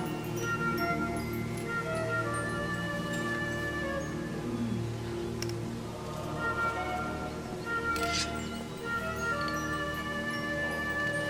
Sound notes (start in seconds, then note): 8.0 sword unsheathing